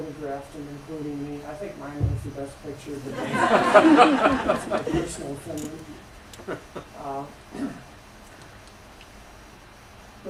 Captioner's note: laughter